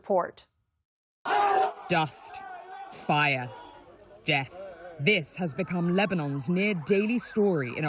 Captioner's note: voice-over